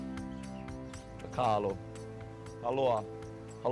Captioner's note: speaking Hawaiian; continues in Hawaiian